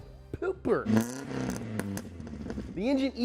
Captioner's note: engine revving